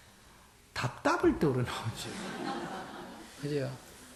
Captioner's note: audience Laughter